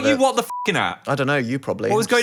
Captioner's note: beep